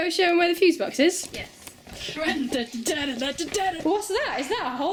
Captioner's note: dramatic humming